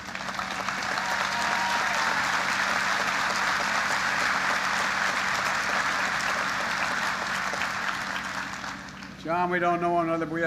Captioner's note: applause